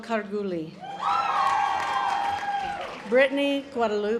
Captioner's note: audience applause